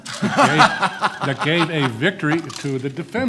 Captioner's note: laughs